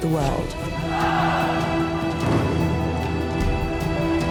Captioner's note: gritos